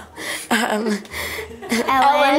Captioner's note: all giggle